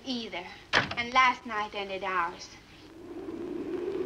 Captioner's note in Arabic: يُغلق الباب; عواء الريح